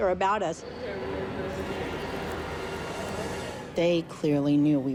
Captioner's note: boys murmuring